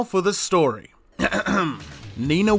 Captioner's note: ahem